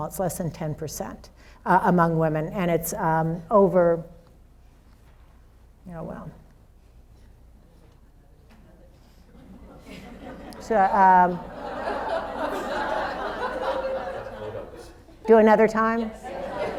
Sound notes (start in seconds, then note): 9.4 audience laughs; 16.2 overlapping chatter